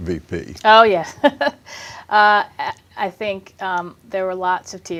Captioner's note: chuckles